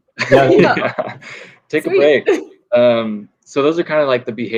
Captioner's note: laughing